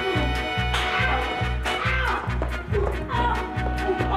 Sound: smacking

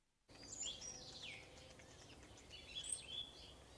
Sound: birds singing

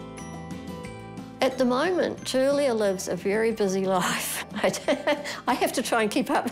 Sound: chuckles

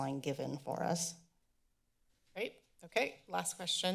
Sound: silence

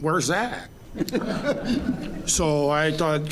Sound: audience laughing

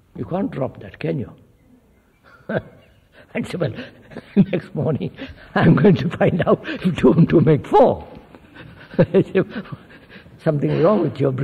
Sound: laughs

